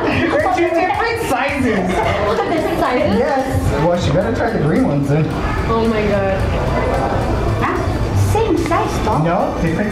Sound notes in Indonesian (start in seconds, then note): 0.0 Ketawa; 1.9 Ketawa